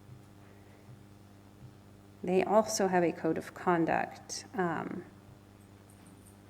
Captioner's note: none